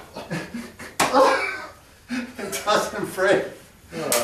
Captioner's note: men laugh